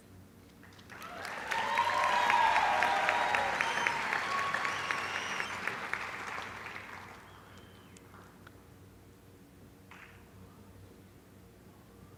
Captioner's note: applause